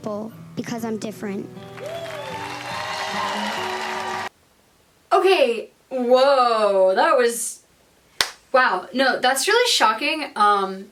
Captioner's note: crowd applauses